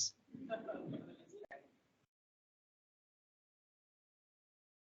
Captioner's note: crowd chuckles